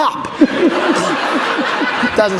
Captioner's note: laughter